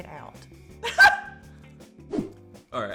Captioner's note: laughs